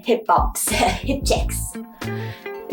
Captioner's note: laughing